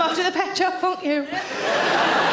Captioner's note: audience laughing